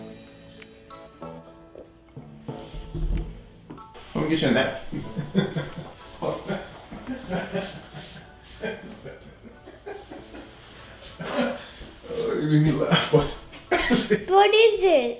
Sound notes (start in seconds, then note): 10.9 laughing